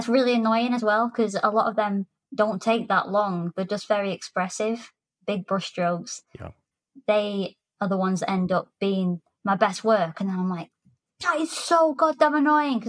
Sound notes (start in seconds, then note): none